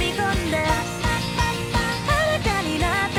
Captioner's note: pop pop pop pop